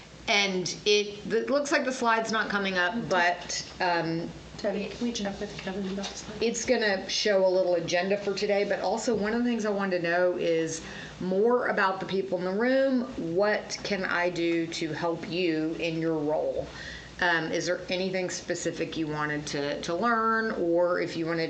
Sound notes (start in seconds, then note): none